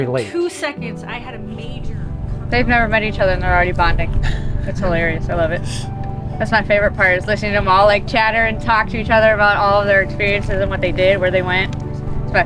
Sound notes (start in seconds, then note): 4.1 volunteer chuckling